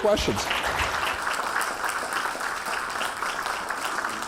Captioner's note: applause